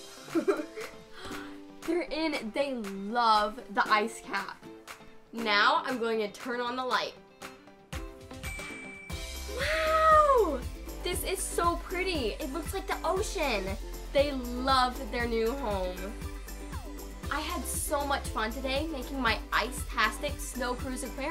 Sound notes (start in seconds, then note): 1.0 gasps